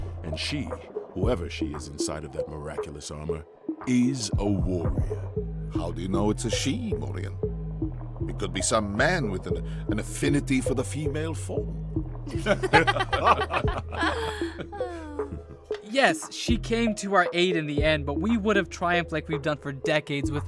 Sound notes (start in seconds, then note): 12.2 William, Morien and Madame Butterfly laugh